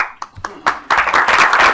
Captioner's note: applause